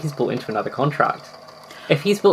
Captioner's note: gasps